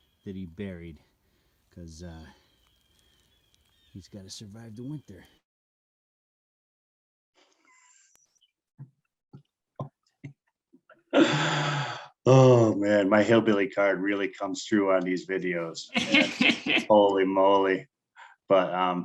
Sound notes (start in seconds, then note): 8.8 chuckling; 15.8 laughing